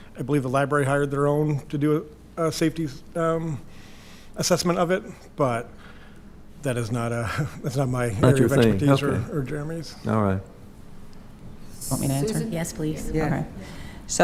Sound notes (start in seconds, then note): 7.2 chuckles